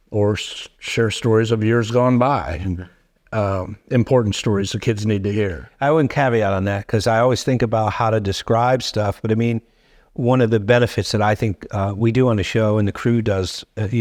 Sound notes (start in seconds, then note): none